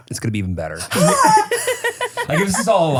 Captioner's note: everybody laughs